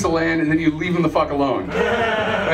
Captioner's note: laughter